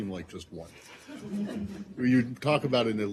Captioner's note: laughter